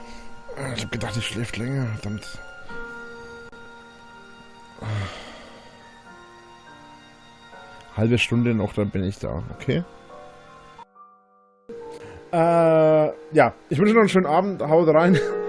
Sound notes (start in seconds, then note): 4.7 sighs